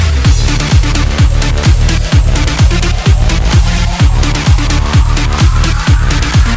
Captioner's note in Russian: ааа